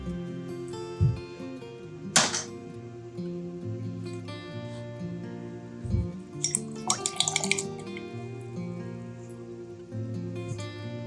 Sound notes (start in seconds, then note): 2.7 mellow music continuing; 6.4 paintbrush clinking; 9.0 mellow music continuing